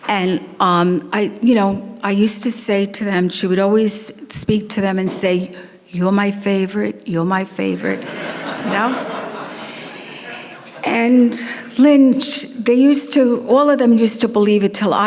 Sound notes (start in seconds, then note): 7.9 audience laughs